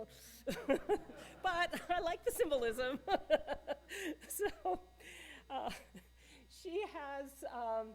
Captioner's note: audience Laughing